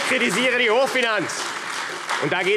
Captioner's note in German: Beifall AfD - Fortgesetzte Zurufe